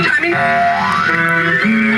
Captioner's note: boing